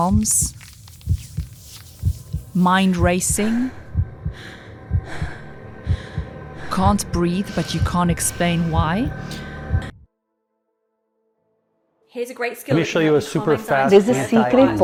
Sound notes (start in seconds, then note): 1.3 sighs; 2.6 panting